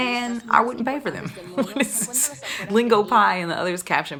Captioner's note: laughing